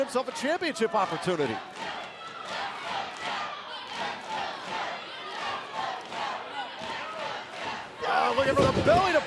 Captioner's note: crowd cheering